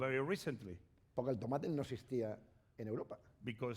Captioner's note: speaking spanish